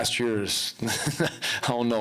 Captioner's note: chuckling